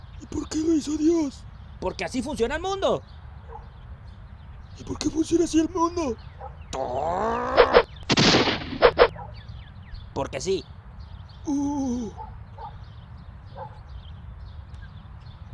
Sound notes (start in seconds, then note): 6.7 grunts; 8.1 bang!